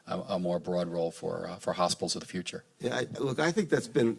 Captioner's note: none